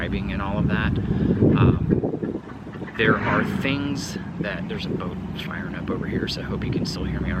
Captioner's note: engine rumbles